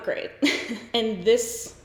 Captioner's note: giggles